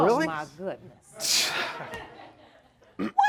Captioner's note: scoffs